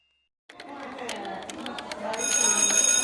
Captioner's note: typing sounds; bell ringing over children chattering